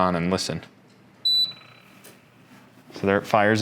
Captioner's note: machine beeping